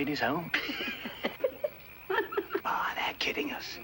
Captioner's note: laughing